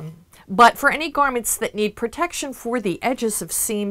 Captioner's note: none